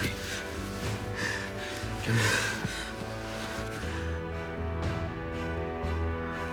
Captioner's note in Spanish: Sollozos